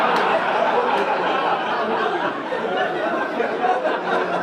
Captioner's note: audience laugh